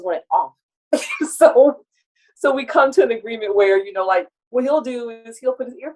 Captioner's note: laughs